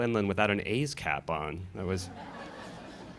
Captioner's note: laughter